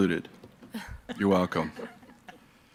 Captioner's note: clerk chuckles